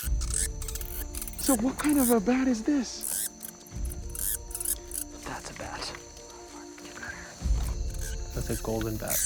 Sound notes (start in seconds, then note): 4.6 bat squeaking